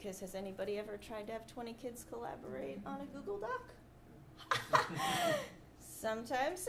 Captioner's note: laughs